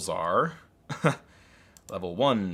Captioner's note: laughs